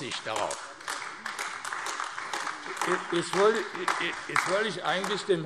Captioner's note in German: Beifall AfD